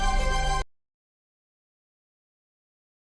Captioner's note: audio muted